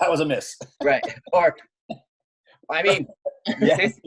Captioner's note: chuckling